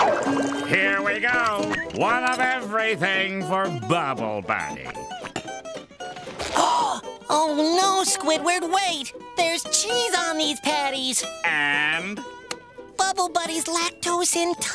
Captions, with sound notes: Here we go, one of everything for Bubble Buddy. [gasps] Oh no, Squidward, wait! There's cheese on these patties! And? Bubble Buddy's lactose intolerant,